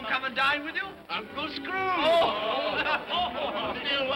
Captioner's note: guest laugh